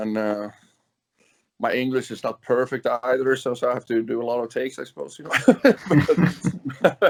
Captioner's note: laughs